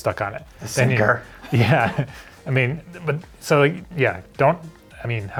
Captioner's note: laughs